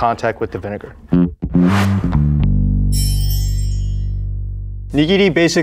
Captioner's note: jaunty music; text chiming